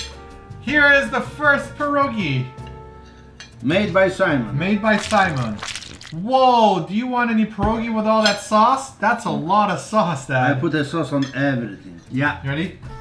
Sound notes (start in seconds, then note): 4.9 splash